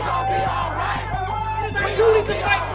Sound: crowd

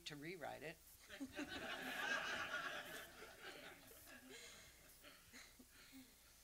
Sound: audience laughs

